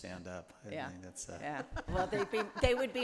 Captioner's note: group laughs